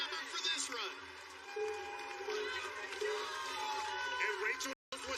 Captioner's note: countdown clock b beeping